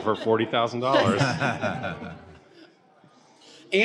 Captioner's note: laughter